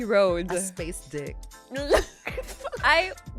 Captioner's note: laughs